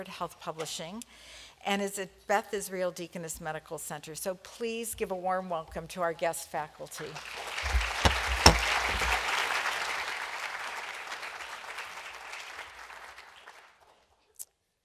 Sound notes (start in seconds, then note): 7.2 applause